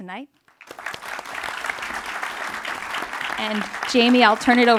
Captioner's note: audience applauds